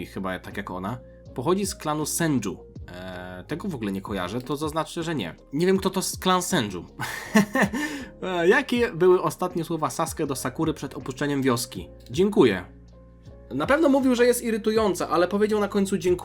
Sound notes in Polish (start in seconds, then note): 7.0 śmiech